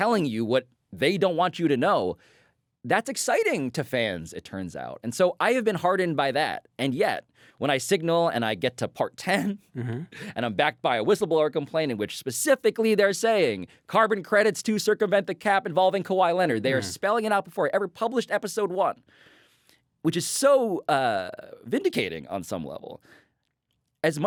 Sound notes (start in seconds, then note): 9.3 Pablo chuckles